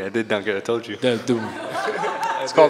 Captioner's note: laughter